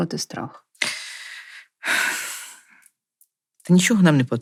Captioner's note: sighs deeply